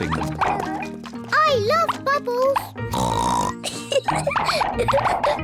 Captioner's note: oinks and giggles; oinks